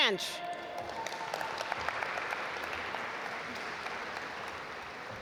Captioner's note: audience applaud